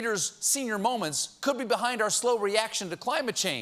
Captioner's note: none